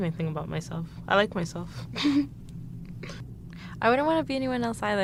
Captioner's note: laughs